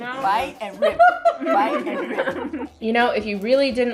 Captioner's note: laughter